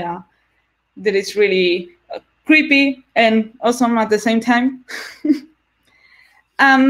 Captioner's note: laughs